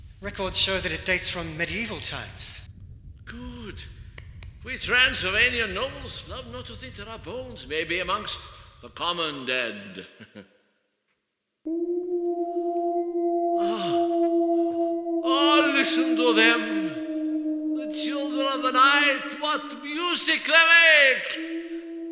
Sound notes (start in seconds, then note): 9.9 laughs; 11.6 wolves howling in the distance